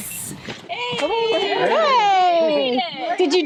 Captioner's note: cheering